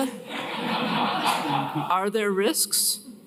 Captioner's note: laughter